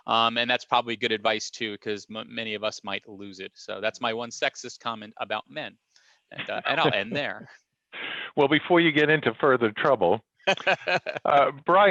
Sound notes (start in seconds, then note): 6.3 chuckles; 10.4 chuckles